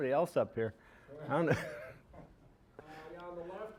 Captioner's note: laughing